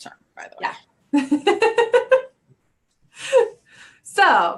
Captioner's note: laughs